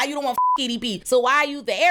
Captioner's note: beep